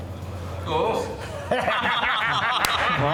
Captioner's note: mechanics laugh